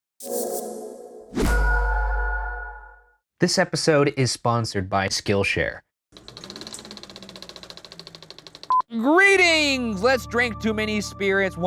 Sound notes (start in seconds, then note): 0.6 placid music; 6.2 film reel rattling